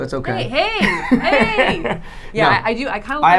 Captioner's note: laughing